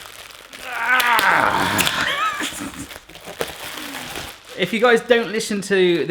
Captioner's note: grunting and laughing